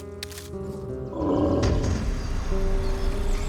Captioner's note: animal growls